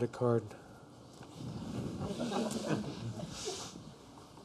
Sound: laughter

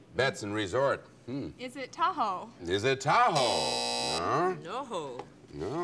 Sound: buzzer

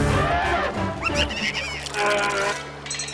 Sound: elephant trumpets; cackles

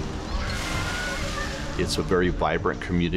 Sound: children cheering

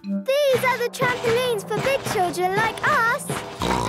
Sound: snorts

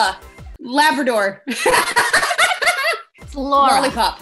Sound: laughing

